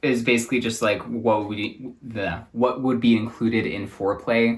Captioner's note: stutters